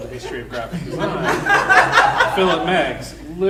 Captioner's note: audience laughing